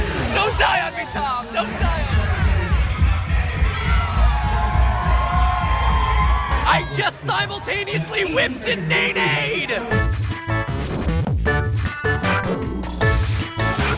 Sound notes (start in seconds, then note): 2.8 loud club music; 5.3 crowd cheers; 10.3 upbeat electronic music